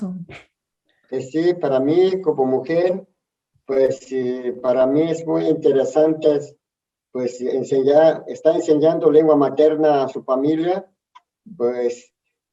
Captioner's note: speaks in Spanish